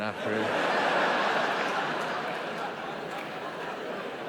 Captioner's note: audience laughing